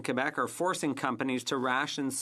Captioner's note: speaking French